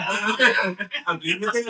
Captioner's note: laughing